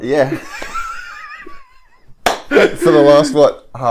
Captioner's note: laughs